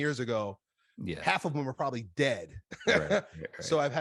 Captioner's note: laughs